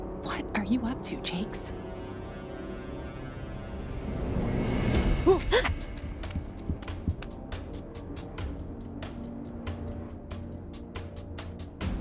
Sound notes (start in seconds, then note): 5.2 both gasping